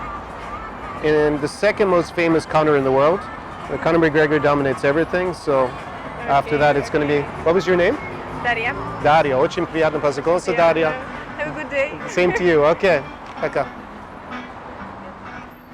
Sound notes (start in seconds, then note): 9.4 Russian